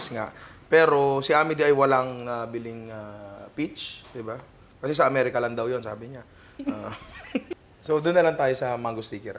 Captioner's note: laughs